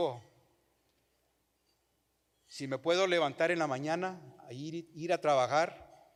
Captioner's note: in spanish